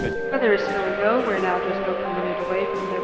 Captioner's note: over intercom